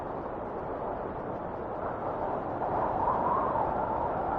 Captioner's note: wind whistling continues